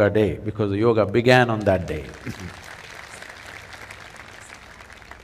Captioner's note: applause; 掌聲